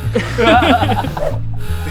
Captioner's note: cheeky laughter